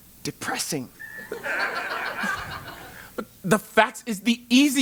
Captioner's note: laugh